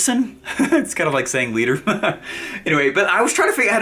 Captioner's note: laughs